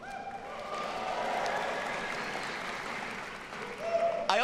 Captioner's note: audience cheering